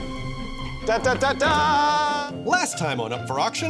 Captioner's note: imitates fanfare